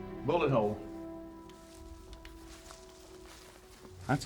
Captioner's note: footsteps